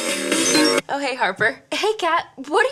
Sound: beeping

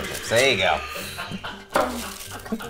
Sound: laughter

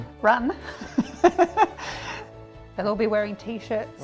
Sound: laugh

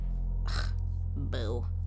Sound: scoffs

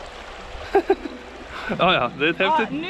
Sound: laughs

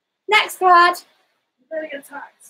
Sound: none

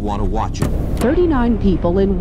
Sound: television static hissing

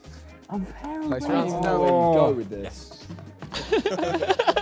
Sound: Sidemen sigh

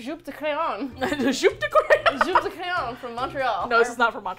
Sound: laughs

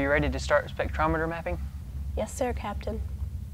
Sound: none

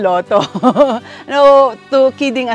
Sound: chuckles

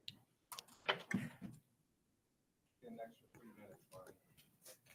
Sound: sighs

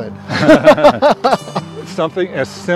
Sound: laughter

